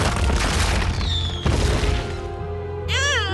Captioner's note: crash